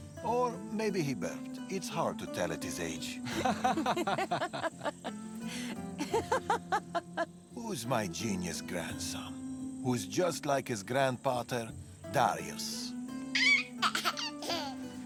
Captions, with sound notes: ...or maybe he burped. It’s hard to tell at his age. (laughing) Who’s my genius grandson... ...who’s just like his grandpater... ...Darius. (giggling)